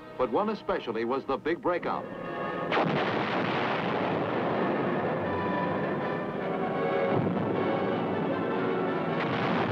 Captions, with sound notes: But one especially was the big breakout. (guns firing) (dramatic orchestral music)